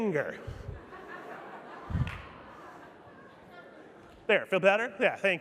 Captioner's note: audience laughing